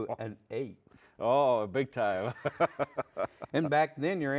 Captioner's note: laughs